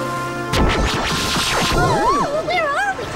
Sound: electricity

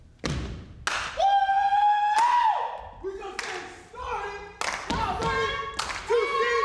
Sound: group cheers

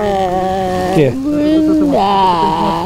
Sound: starts to rain

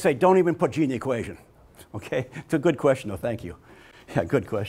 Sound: laughs

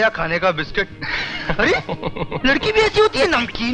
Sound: laughs

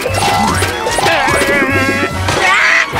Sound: growling; screams

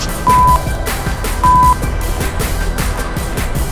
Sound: beep

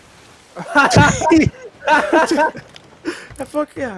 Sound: laughing

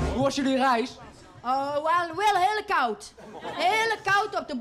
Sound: in a very inaccurate Surinam accent

